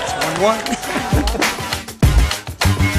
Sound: rhythmic music playing; laughing; rhythmic music playing

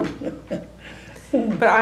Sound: laughs

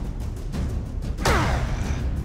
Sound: grunt

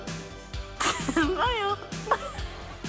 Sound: hearts pumping; chuckling; people laughing

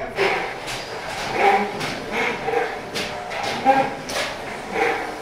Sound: motor running noisily

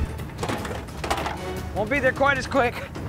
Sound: dramatic music; blasters clattering

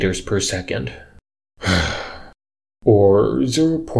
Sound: sigh of exasperation

